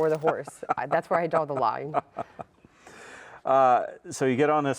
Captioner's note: laughs